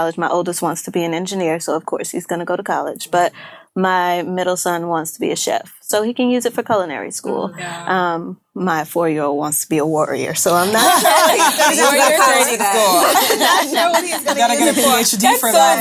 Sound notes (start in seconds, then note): 10.6 laughing